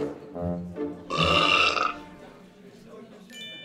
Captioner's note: belches